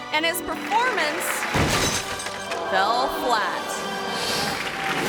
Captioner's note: conductor thuds